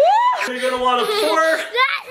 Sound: person groans; person shouts

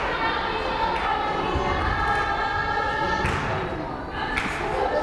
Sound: crowd cheering

